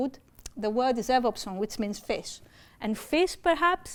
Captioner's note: speaking greek